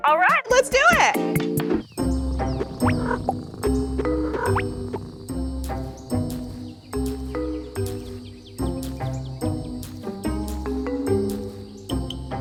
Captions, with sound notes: - All right, let's do it! (sneaky music plays) (Max's footsteps)